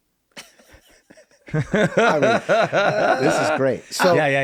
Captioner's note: laughing